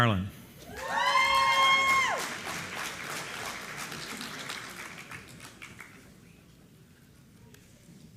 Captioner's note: applause